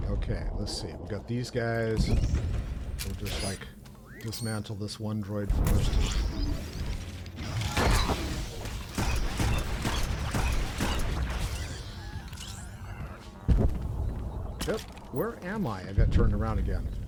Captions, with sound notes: Okay, let's see, we got these guys. We'll just like dismantle this one droid for a second. (gunshots) Where am I? I got turned around again.